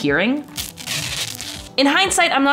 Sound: tape ripping

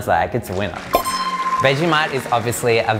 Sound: applause

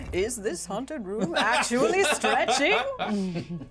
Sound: speaker laughs

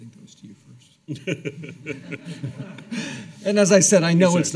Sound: laughing

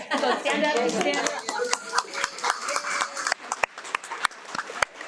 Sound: everyone applauds

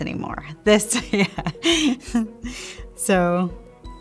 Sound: laughs

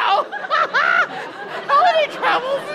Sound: hysterical laugh

